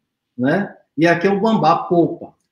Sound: speaks portuguese

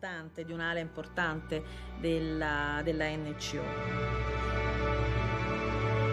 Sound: speaking in Italian

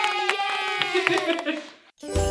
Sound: cheering; laughing

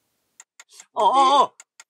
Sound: timer ticking

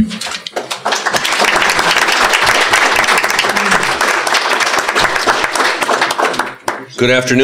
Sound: applause

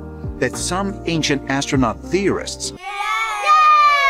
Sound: children cheering

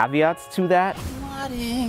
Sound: air whooshing

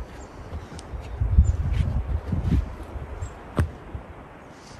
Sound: sound of wind

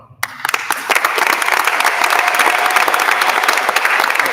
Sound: attendees applauding

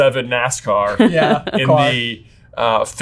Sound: laughing

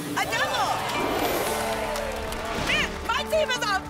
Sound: applause

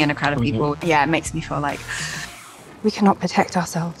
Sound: gasps

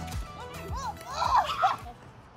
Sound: screams

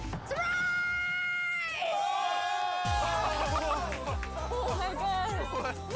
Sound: all exclaiming

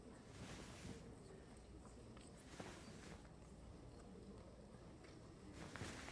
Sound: attendees chattering softly

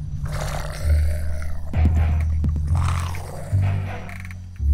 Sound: snarling

